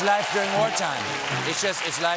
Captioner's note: cheers and applause